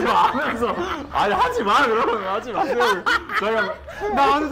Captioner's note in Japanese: 自分で笑ってる